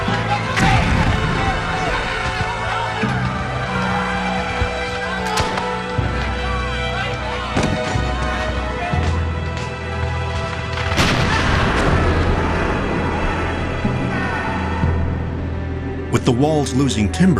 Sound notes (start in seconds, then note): 0.0 solemn music; 11.0 explosion booms; 11.2 soldiers screaming